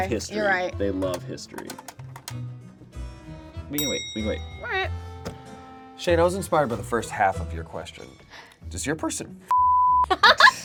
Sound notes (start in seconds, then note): 3.3 bell clicking sound; 9.5 beep